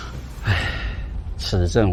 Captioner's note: sighs